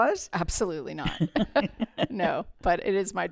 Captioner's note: laughter